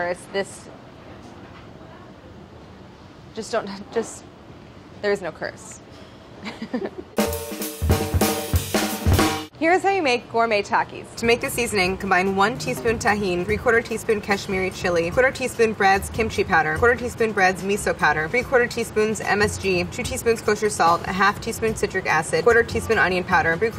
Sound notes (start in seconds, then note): 6.4 laughs; 7.1 upbeat drumming